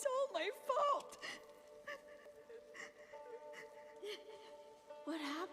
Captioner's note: sobbing